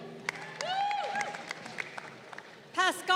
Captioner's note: crowd cheering